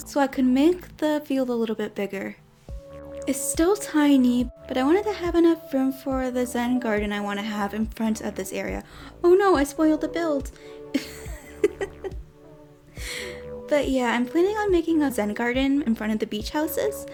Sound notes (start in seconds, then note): 10.9 giggles